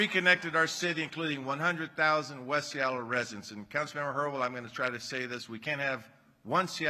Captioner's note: applause